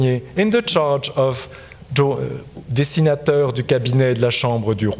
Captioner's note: speaking in French